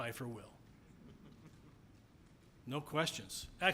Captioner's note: audience members chuckling